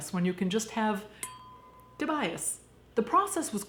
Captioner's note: dinging